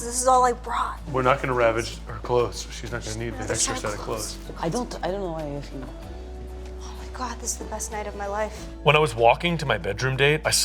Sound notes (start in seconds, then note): 4.6 stammering; 6.2 gentle romantic music